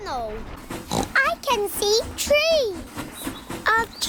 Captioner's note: oinks